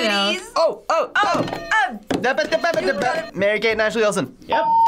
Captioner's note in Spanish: hablando galimatías